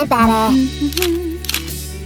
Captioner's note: hums